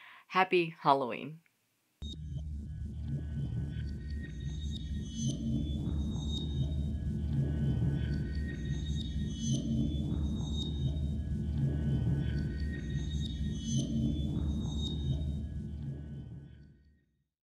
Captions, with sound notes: Happy Halloween! (spooky ambience)